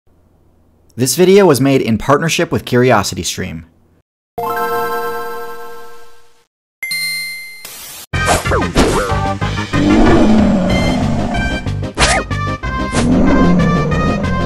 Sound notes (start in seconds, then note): 4.4 GameBoy startup sound; 6.8 ding